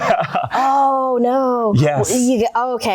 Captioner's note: laughter